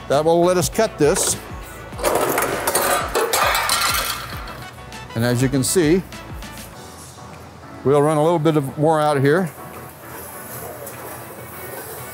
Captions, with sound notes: That will let us cut this. (shear mechanisms clicks) (coil rattles and clanks) And as you can see, we'll run a little bit more out here. (upbeat music)